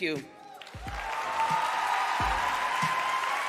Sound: cheers, applause

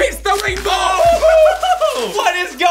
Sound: laughing

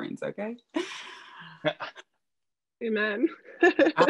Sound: laughs; laughing

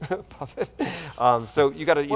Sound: chuckles

